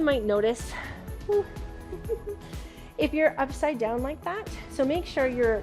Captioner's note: chuckles